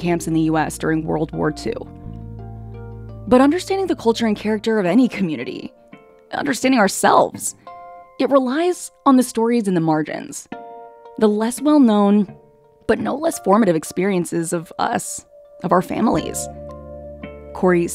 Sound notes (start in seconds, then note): none